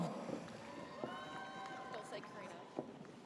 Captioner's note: audience cheers